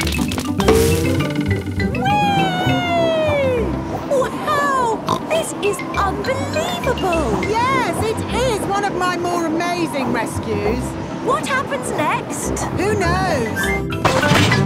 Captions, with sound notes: Wee! (snorts) - Wow! This is unbelievable! - Yes! It is one of my more amazing rescues! - What happens next? - Who knows?